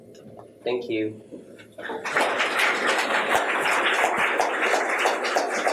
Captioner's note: applauding